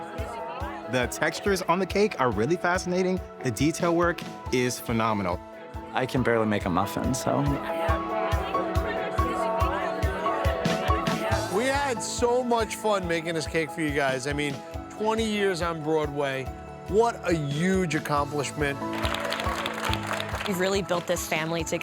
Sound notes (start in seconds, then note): 7.9 background chatter; 7.9 uplifting music; 18.6 all applauding